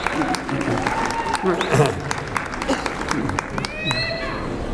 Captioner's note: shouts; whistling